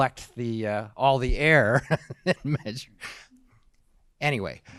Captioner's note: laughing